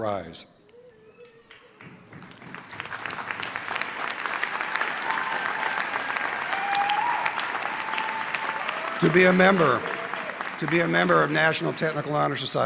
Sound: cheers and Applause

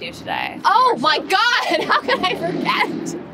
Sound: Madelaine laughs

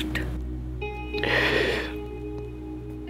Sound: inhales

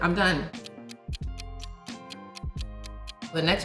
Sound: clock tickling

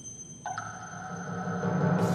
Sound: bell ringing; droplet dropping; drum rolling

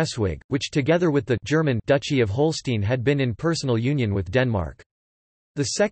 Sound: Danish; German

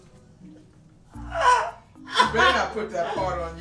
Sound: laughing

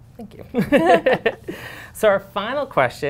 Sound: laughter

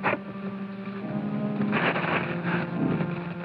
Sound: rustling

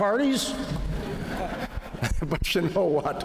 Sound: laughter

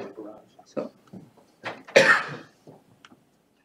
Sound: coughs

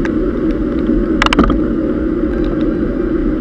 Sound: gear shifting

